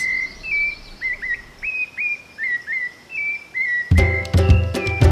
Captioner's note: birds singing; regional music